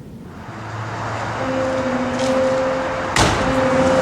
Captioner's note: car driving; piano music; object thuds